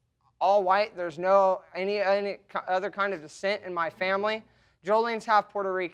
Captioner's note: stammering